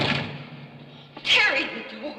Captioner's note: door closing